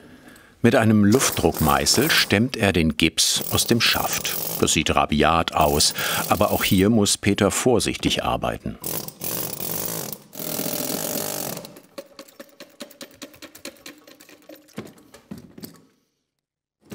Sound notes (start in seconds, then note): 8.8 slow drilling; 10.9 drilling stops